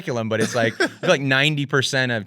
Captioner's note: laughs